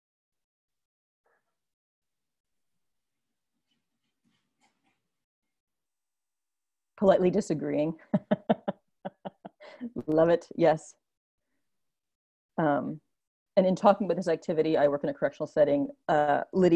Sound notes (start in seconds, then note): 9.0 laughs